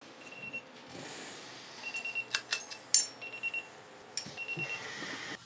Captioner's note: alarm beeping